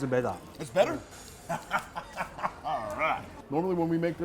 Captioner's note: laughs